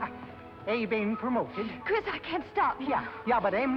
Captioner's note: foreign accent